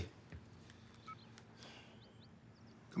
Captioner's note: cell phone beeps